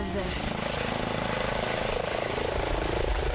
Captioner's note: engine whirring